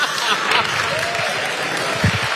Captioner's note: laugh; applause